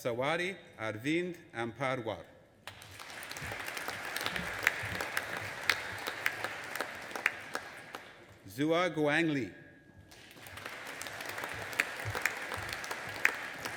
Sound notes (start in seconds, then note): 2.7 audience applauding; 10.1 audience applauding